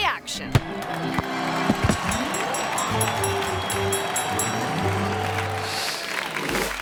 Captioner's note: ball thumps; audience applauding; bell dinging